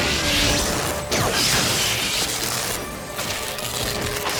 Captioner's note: sparks crackling